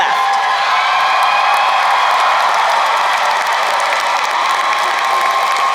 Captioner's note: crowd cheering and applauding